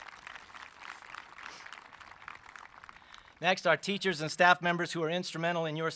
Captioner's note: applause